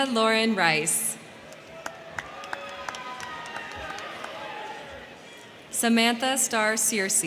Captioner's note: crowd clapping; crowd cheering